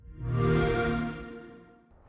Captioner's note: xbox sound